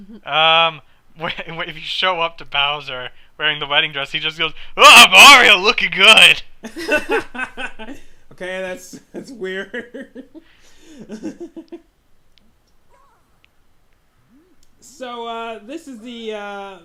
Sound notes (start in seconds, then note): 7.1 laughing; 11.8 most awkward of silences